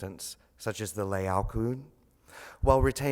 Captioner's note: speaks foreign language